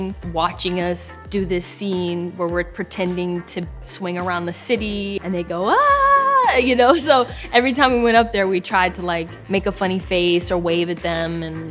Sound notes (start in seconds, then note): 5.7 cheering